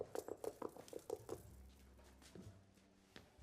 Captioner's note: knocking